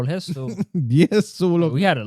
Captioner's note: speaking Spanish